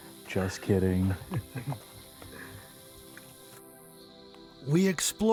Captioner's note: crew members laughing